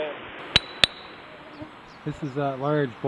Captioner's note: tap tap